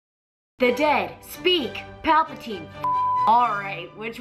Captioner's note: beep